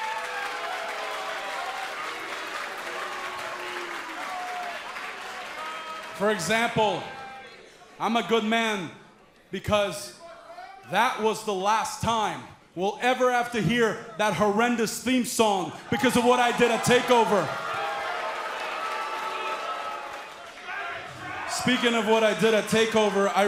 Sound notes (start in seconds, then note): 0.0 cheers & applause; 18.8 cheers & boos